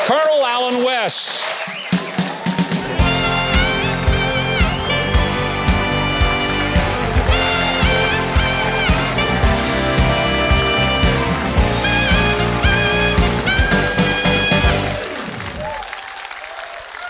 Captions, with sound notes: Colonel Allen West. (audience clapping) (upbeat music)